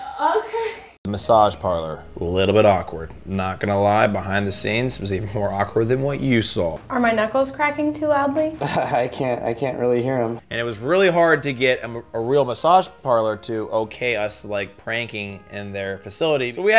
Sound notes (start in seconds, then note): 8.5 laughing